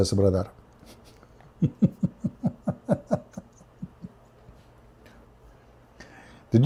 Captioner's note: Ketawa